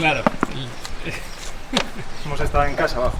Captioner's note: laughter